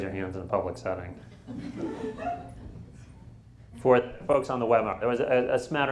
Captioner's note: laughter